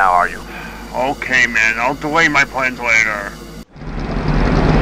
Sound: sigh

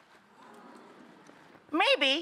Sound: audience moans

